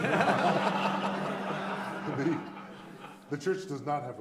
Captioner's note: audience laughing